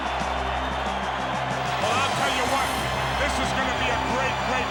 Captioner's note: applause